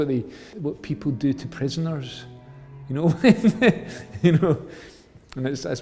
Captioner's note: laughs